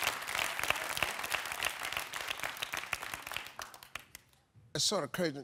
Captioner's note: audience applauding continues